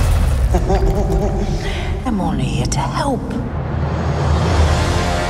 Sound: chuckles

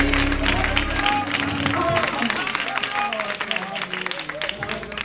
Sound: applause; crowd exclaiming

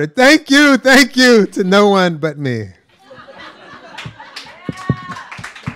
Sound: applause

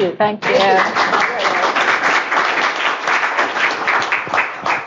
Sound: applause

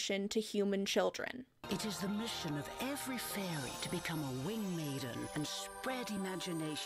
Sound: voiceover

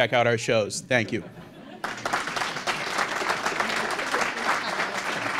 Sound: applause

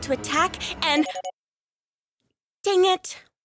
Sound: phone Beeps

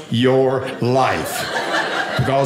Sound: audience laughing

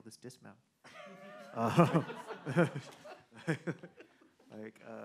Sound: men laughing

